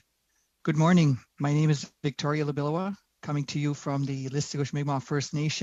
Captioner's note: speaking Alternate Language